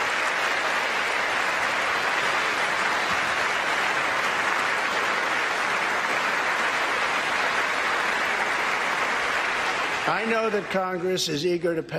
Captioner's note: applause